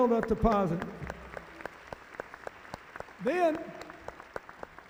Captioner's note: audience applauding